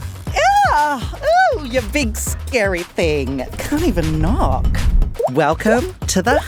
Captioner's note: yelps